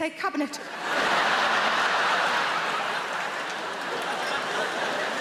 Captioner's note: audience laughing